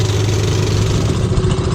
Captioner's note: boat engine noise